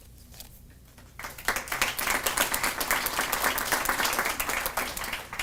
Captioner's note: audience applauding